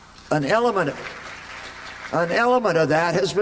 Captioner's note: applause